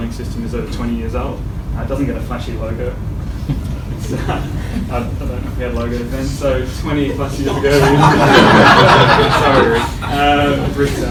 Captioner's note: laughter